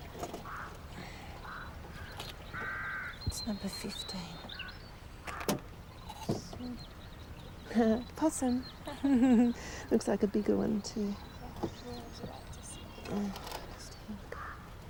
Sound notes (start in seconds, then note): 8.8 chuckles; 8.8 both chuckle